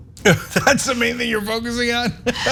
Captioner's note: laugh